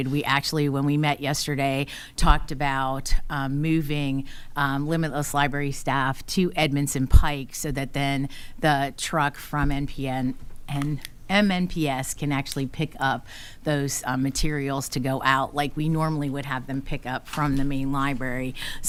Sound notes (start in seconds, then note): none